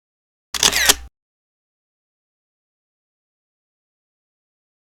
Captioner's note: camera lens snapping